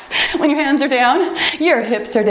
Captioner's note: timer beeps